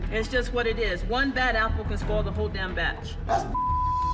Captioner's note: beep